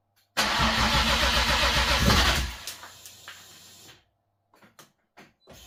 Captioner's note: engine starting